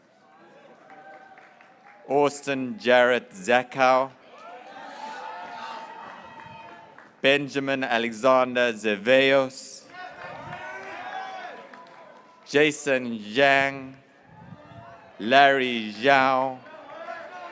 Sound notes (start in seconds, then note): 2.1 graduates cheering; 5.7 graduates cheering; 11.9 graduates cheering; 17.3 graduates cheering